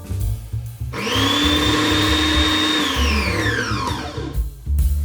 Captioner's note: machine whirring